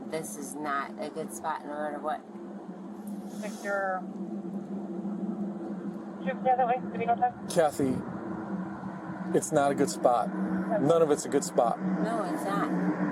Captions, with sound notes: This is not a good spot no matter what (Radio chatter) Cathy... it's not a good spot None of it's a good spot No it's not